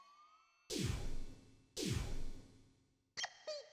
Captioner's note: Heart beating